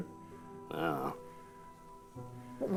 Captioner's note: grunts